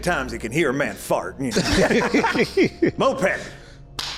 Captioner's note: laughs